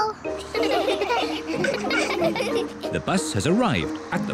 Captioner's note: all giggle